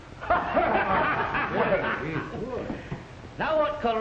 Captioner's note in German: alle lachen